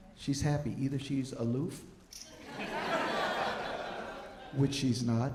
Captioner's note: audience laughing